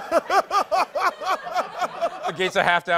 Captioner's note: laughter